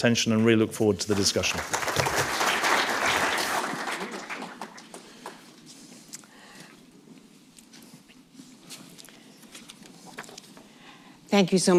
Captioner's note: applause